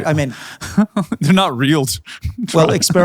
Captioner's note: laughing